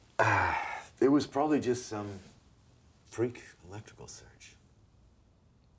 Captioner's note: sighs